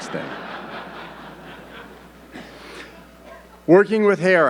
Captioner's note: audience laughing